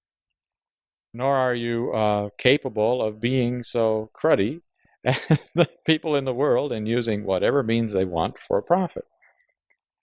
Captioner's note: laughs